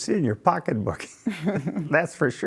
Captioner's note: laughing